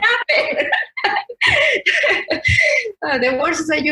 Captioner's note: both laugh